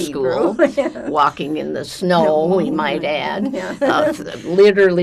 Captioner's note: laughing